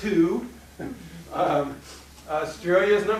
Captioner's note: laughing